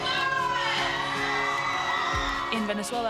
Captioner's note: wild cheering